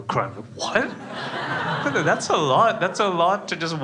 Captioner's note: crowd laughs